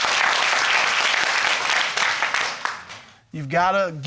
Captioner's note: audience applauding